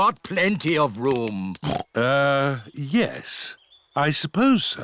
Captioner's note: oinks